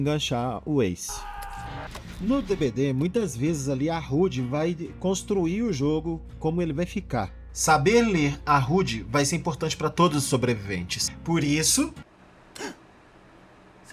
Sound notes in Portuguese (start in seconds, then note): 1.1 grito